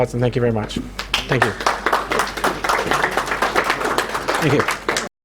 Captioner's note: audience applauding